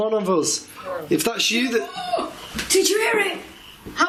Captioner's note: gasping